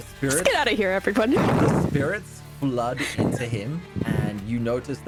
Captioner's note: thudding